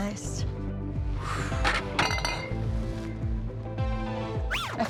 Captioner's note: sighs; record scratches